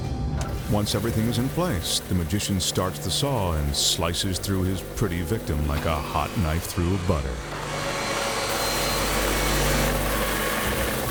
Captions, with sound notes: Once everything is in place, the magician starts the saw, and slices through his pretty victim like a hot knife through a butter. (saw buzzing)